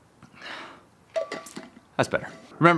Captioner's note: sighs; bottle lid clattering